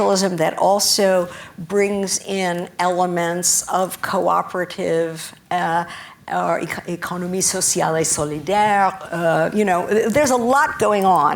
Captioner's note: spanish